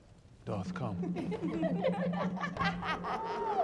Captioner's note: women laughing